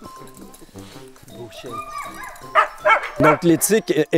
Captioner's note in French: aboiements